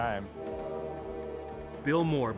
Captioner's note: train horn honking